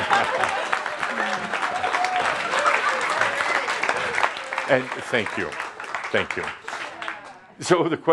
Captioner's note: audience laughter applause